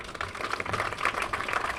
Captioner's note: applause